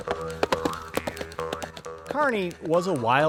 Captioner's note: galloping; twangy western music